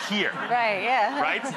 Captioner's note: audience laughing